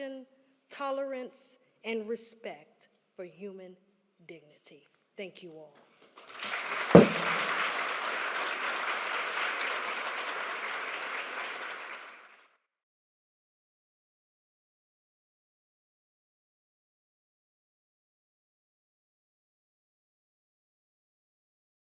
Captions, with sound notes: tolerance and respect for human dignity. Thank you all. [applause]